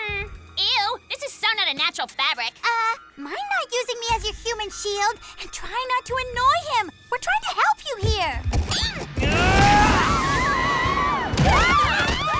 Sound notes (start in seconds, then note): 6.9 roaring and screaming; 9.2 all scream